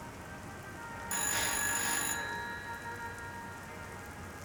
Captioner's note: telephone rings